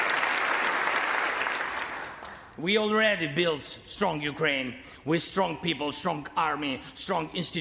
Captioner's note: applause